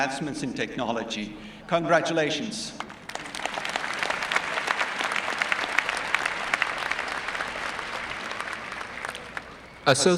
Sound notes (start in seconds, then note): 7.1 applause